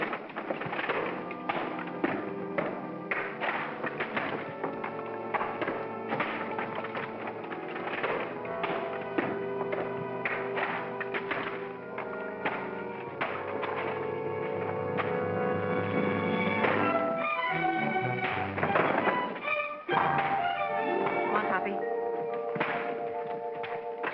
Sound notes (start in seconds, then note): 0.1 clattering sounds; 0.1 ominous music; 16.6 whack; 18.5 thump; 19.9 pop